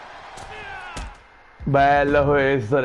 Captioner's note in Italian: Applauso